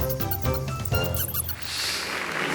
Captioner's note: mouse squeaking; audience applauding